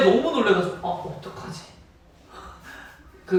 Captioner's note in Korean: 입틀막